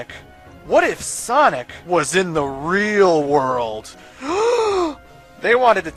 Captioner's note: gasp